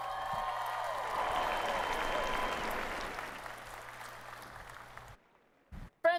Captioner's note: cheering